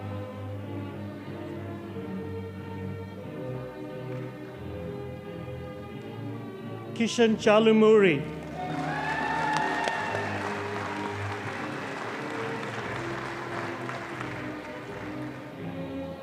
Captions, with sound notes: Kishan Charlamuri. (audience applauding)